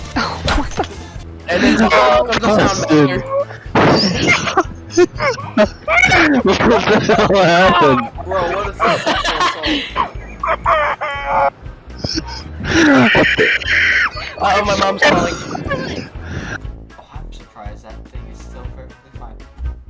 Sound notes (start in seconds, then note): 3.9 broken Washing Machine laughter